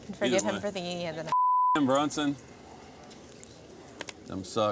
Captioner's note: beep